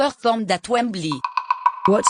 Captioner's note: rattle